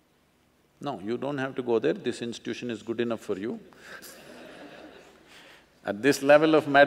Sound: few Laugh

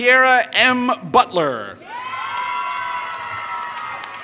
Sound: applause

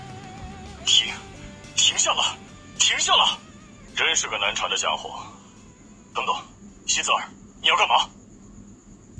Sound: engine sounds

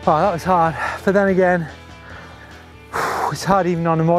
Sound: exhales sharply

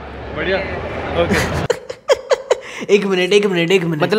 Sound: laughs

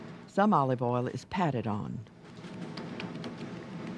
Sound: voiceover

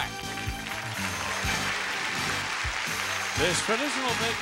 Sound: audience applauding

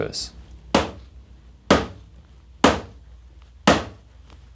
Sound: knocking on shelf

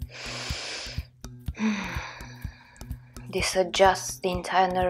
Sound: loud breathing

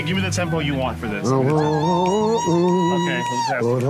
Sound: humming in rhythm

